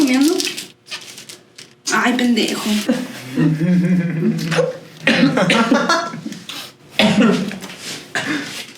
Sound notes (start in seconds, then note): 2.9 laughing